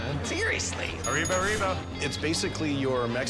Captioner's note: bell dinging